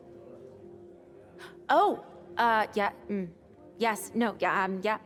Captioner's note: gasps